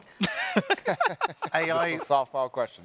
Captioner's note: hosts laughing